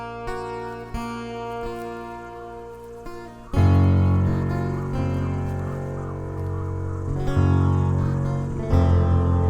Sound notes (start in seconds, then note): 2.4 crows calling